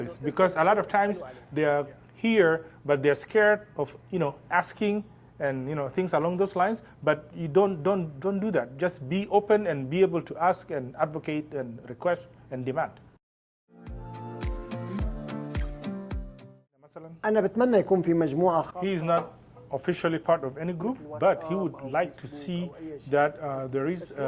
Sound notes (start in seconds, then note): 18.3 speaking Arabic